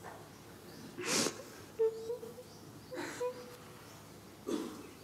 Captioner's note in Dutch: begint te huilen